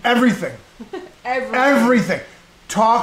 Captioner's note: laughs